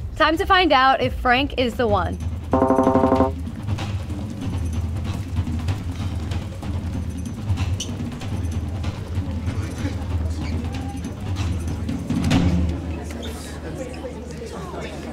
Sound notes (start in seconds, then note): 2.2 suspenseful music; 2.5 digital beeping; 11.0 crowd chattering